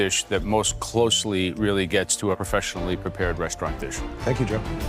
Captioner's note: none